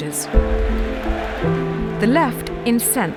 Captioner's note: crowd chanting